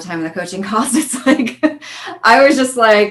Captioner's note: laughing